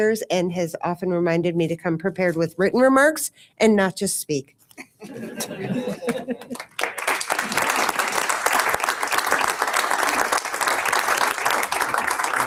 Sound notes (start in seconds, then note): 5.0 audience laughs; 6.4 audience applauds